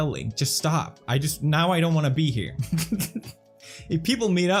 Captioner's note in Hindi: हंसते हुए